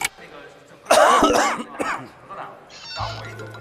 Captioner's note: coughing